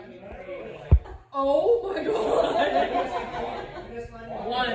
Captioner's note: laughs